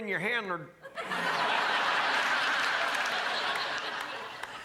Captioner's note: crowd laughs